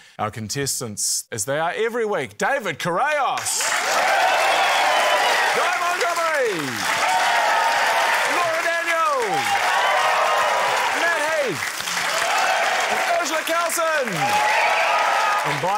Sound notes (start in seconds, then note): 4.2 cheering, applause; 7.0 cheering, applause; 9.6 cheering, applause; 14.3 cheering, applause